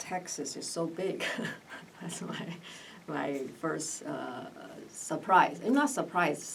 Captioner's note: laughs